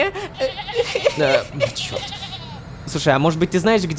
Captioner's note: cries